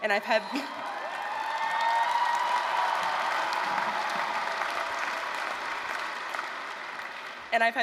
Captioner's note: applause, cheering